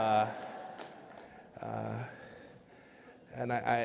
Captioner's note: laughter